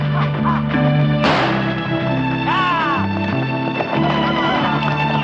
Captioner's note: gunfire